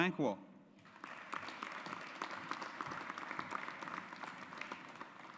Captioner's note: audience applauds